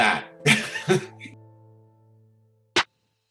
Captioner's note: laughs